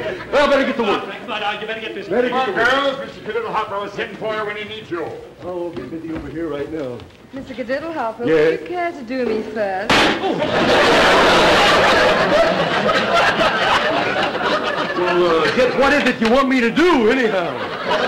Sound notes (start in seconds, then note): 9.9 crack; 10.1 audience laughter